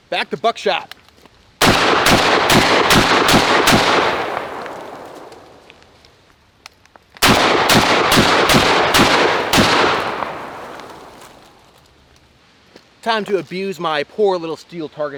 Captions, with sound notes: Back to buckshot. (Gunshots) (Gunshots) Time to abuse my poor little steel target